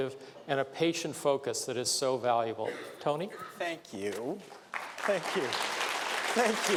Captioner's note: applause